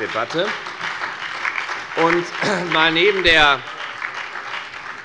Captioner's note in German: Beifall bei der FDP, der SPD und der LINKEN